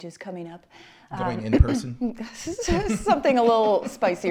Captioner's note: chuckles